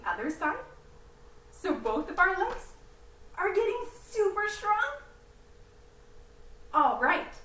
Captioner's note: patting legs